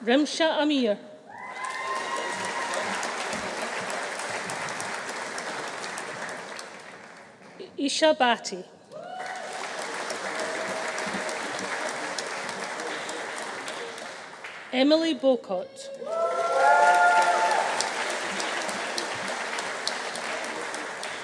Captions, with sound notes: Rimsha Aamir. (AUDIENCE APPLAUDING) (AUDIENCE CHEERING) Isha Bhatti. (AUDIENCE APPLAUDING) (AUDIENCE CHEERING) Emily Bowcott. (AUDIENCE APPLAUDING) (AUDIENCE CHEERING)